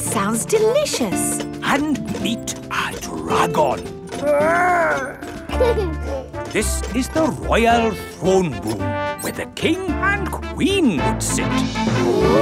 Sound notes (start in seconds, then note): 4.2 giggles